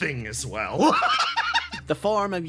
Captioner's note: laugh